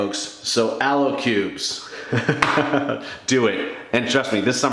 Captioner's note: laughs